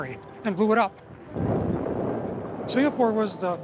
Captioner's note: explosion